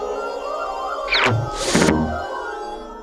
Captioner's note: title swooshes out; swirling ethereal music